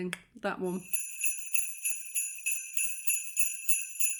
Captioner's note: sleigh bells